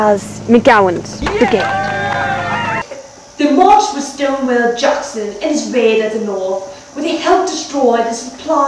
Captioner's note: cheering